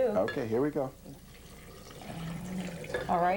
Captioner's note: pouring sounds